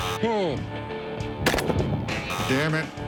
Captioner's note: gun shots; buzzer